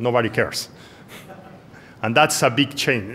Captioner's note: laughter